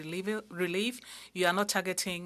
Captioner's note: speaking French